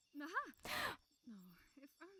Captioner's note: etta gasps